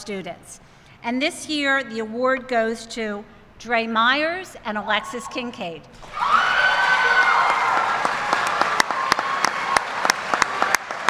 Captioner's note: applause